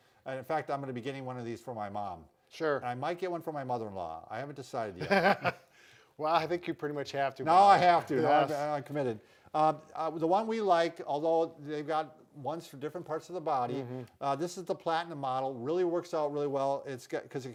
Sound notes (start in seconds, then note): 5.0 both laughing